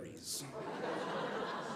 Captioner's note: audience laughing